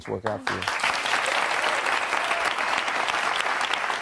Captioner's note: audience clapping